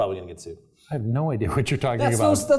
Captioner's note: laugh